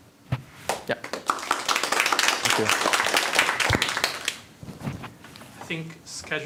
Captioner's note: applause